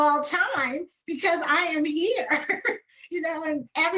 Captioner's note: laughs